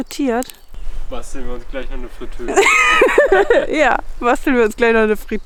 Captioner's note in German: beide lachen